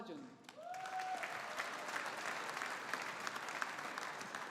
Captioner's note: audience applauding